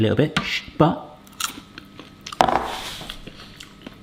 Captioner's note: crunch